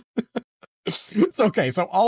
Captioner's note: laughs